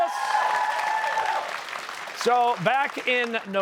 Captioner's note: cheers and applause